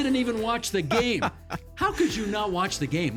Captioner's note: laughing